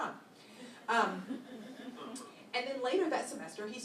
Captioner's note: laughter